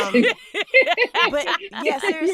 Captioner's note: laughing